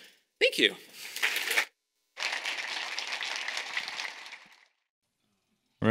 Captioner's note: audience applauding